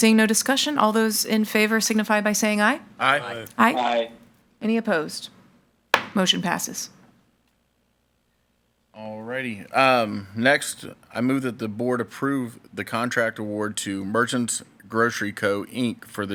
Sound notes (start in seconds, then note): 3.3 in Unison